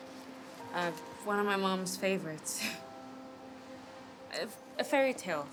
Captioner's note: laughs